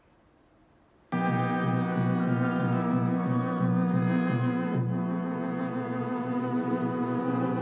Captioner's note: dramatic eerie music; crickets chirp